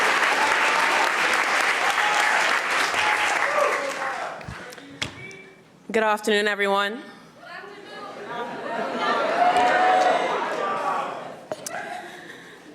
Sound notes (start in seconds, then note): 8.8 audience cheering